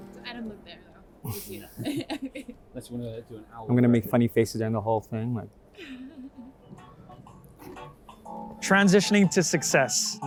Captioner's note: laughs